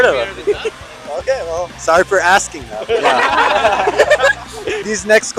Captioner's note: laughs